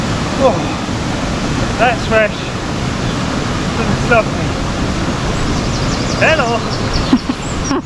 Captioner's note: laughs